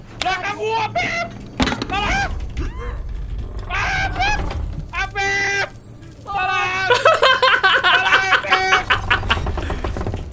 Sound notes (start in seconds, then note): 2.0 scream; 6.8 evil laugh